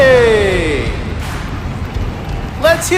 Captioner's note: crowd cheering